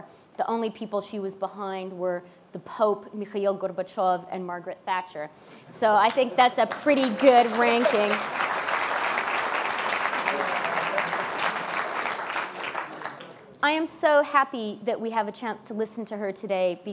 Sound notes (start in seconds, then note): 7.9 applause